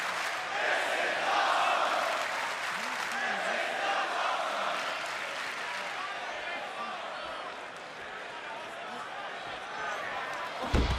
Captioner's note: crowd cheering